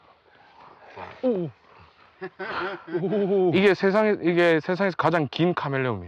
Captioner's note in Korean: 웃음